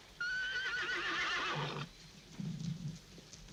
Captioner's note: horse whinnying